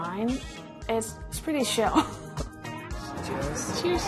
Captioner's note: laughs